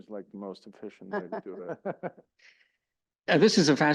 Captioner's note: laugh